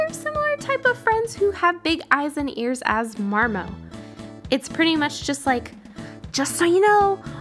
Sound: shouting

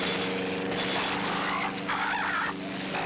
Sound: squawks

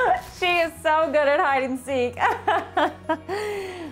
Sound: laughing

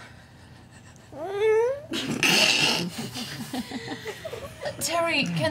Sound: squeaking "I don't know" sound

